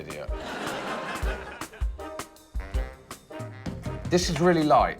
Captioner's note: laughter